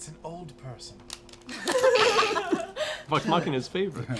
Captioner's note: laughter